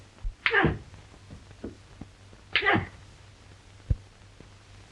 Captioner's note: grunting